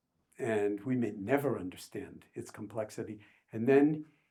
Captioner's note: none